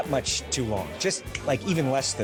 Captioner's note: clicks fingers